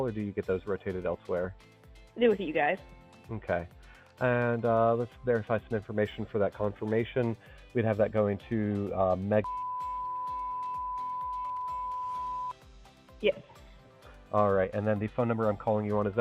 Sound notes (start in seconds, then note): 9.4 beep